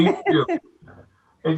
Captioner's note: laughing